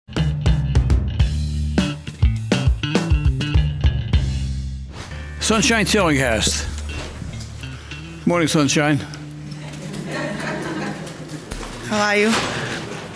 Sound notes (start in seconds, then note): 0.1 funk music; 9.9 laughing